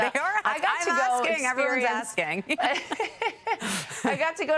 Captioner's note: laughter